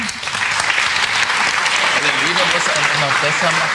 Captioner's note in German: Applaus